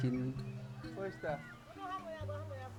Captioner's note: indistinct chatter